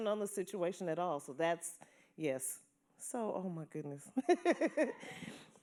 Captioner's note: chuckles